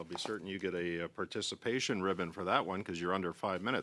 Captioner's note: speaking French